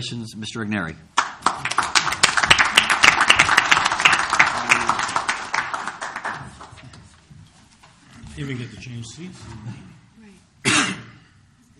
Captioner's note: applause